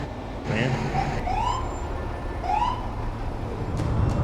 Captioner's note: siren